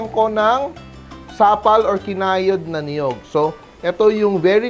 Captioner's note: sizzle